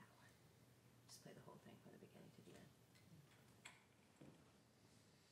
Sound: speaking faintly off mic

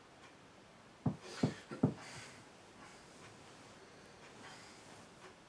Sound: knocking from outside; gasps

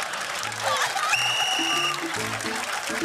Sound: laughter and applause; whistle blows

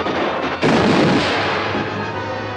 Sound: tire Blows

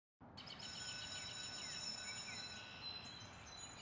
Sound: school bell rings

